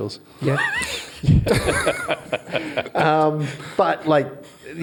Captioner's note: all laugh